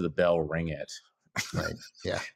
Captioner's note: chuckles